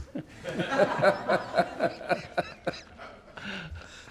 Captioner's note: laughing